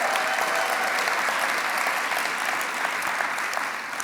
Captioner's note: applause